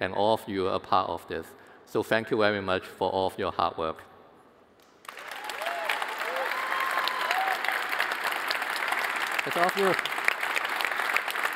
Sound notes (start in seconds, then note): 4.9 applause